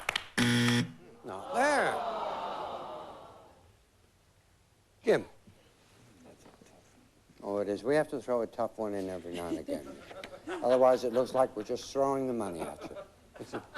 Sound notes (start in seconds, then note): 0.4 buzz; 2.7 crowd groans